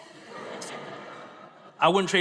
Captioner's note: audience laughs